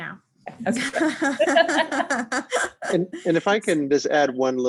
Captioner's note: both laughing